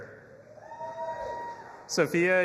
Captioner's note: audience applauding and cheering